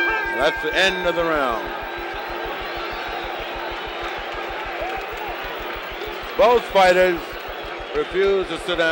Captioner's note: bell sounds